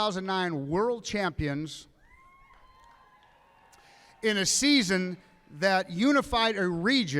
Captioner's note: applause